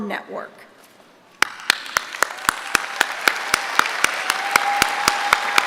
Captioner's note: applause